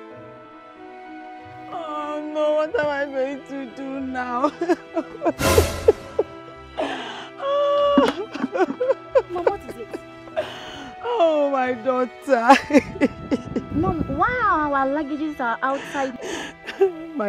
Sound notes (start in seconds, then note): 6.8 crying